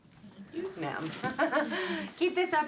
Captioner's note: laughs